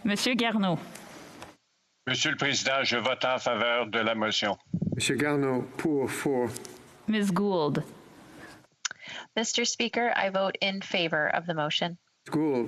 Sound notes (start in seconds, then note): 0.1 speaking French; 6.5 speaking French